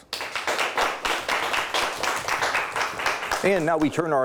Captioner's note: audience applauds